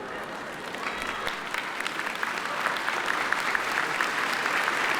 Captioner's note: attendees applaud